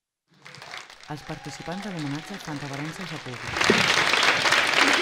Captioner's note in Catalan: Aplaudiments